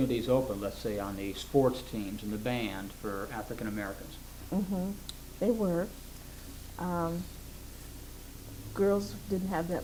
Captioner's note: affirms